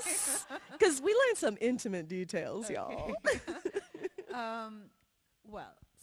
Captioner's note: laughs; laughs